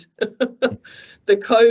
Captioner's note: chuckles